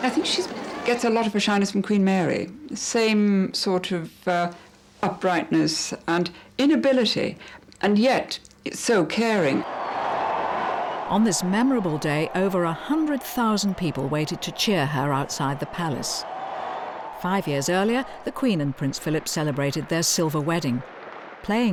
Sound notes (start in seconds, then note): 10.0 crowd cheering